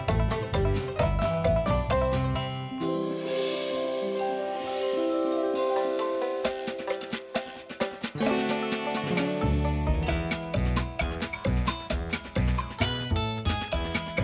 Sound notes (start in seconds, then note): none